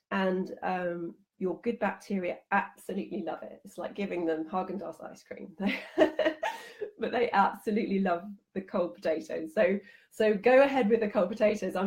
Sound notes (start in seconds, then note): 5.8 laughing